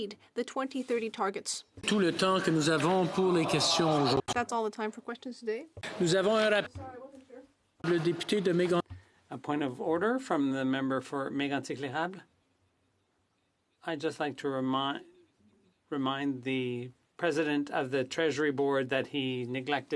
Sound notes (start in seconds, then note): 7.0 speaking French